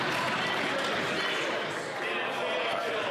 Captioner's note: applause